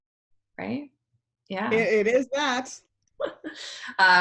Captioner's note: laughs